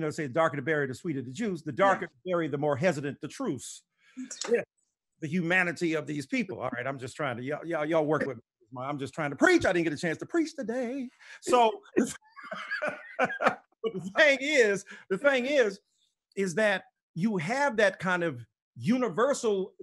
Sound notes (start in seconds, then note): 11.4 both laughing